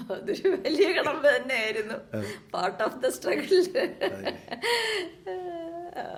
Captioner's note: bursts out laughing